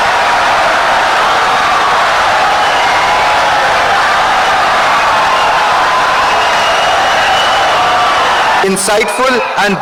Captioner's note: wild applause and cheering for 17 seconds